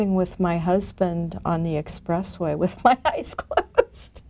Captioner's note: laughing